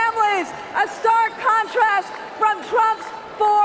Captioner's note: cheering and applause